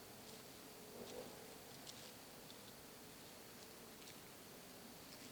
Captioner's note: none